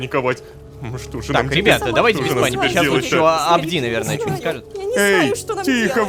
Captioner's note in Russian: Обеспокоенный шум